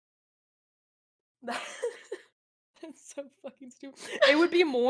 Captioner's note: laughs; laughs